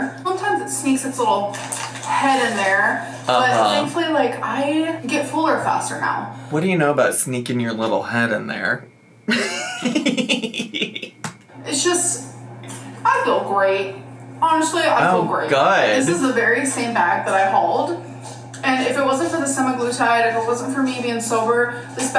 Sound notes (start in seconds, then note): 9.3 giggling